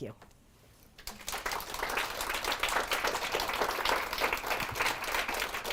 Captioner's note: audience applauds